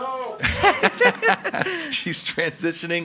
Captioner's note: all laughing